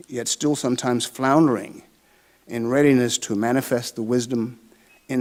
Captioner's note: none